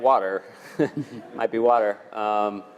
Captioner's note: laugh